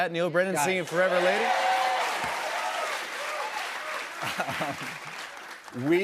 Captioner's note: cheers and applause